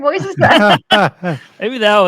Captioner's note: chuckle